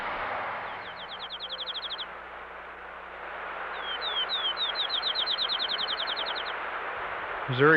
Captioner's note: birds chirping